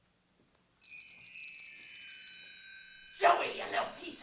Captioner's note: magical twinkling